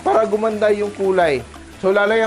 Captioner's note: sizzle